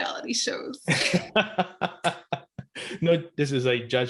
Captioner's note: laughing